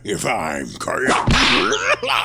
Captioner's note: whip crack